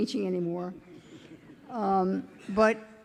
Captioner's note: audience chuckling